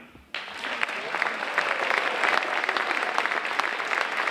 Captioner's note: audience applauding